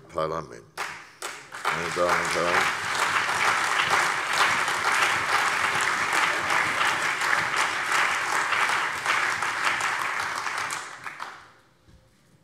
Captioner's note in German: Lebhafter allgemeiner Beifall